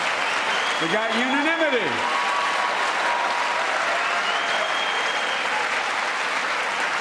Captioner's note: applause